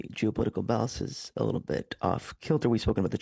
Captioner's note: speaking French